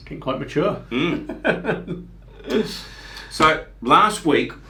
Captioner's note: laughs